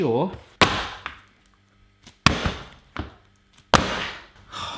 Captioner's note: book thudding